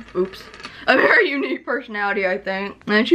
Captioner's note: laughingly